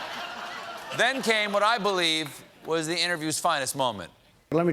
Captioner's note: laughter